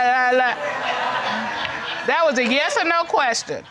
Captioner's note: audience laughing